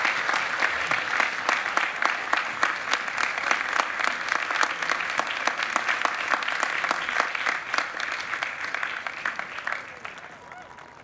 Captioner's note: applause